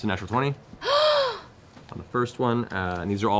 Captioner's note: gasps